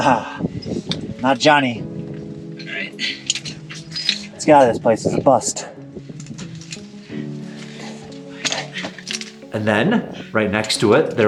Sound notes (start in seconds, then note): 3.7 metal clanking; 6.5 metal equipment clanking